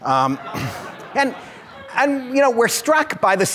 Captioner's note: audience laughs